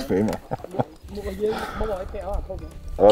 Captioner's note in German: Stimmengewirr im Hintergrund